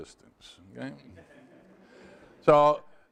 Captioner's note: students laugh